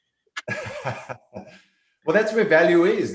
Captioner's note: laughing